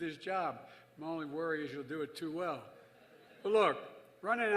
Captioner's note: laughter